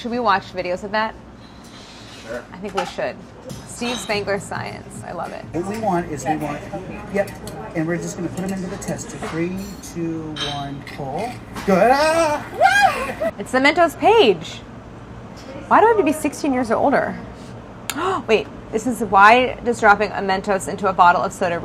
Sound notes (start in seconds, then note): 11.8 yelping; 17.9 gasps